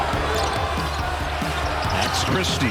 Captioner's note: crowd roaring; sneakers squeaking